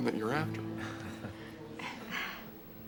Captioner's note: chuckles